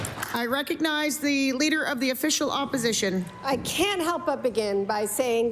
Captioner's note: applause